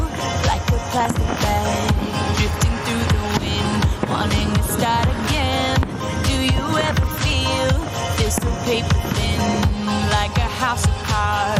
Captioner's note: fireworks sounding